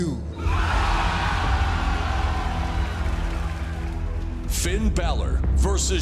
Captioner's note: cheers and applause